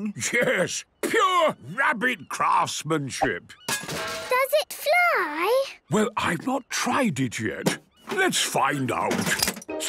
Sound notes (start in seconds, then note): 3.7 distant clanging